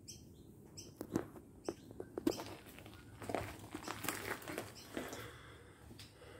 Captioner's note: footsteps